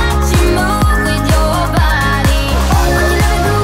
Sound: beeping

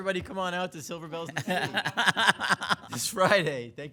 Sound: laughs

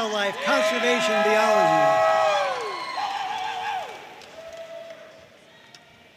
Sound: audience cheering and applauding

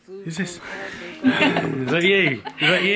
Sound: laughs

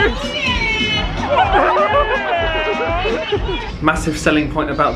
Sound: laughs

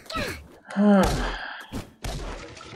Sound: sighs

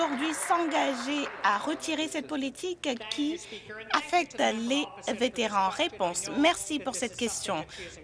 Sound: some Applause

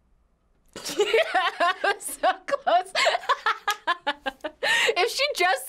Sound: laughs

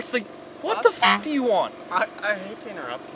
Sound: honk

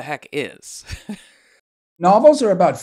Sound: chuckling

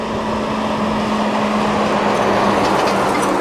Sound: truck roaring

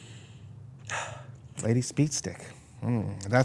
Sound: sniffs

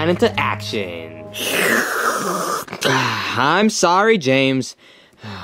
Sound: slurps

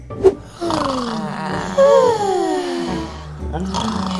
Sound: snoring

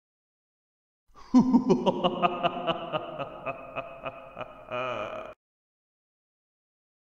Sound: creepy laugh

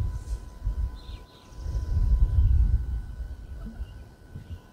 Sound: birds chirping

